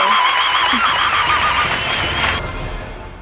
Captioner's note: applause